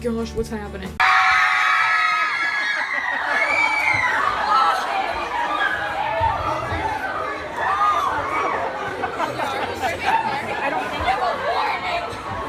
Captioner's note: shocked screaming